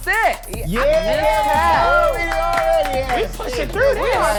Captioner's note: all cheer